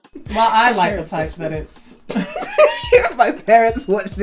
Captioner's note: laughs